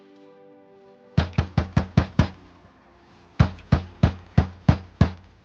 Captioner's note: door knocking